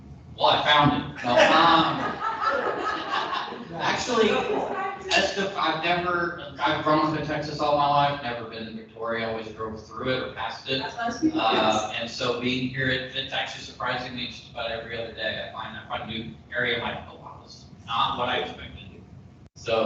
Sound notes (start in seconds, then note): 1.4 people laughing